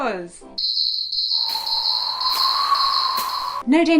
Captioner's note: sound effects as if tumbleweed was blowing